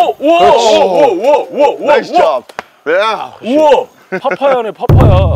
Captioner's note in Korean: 감탄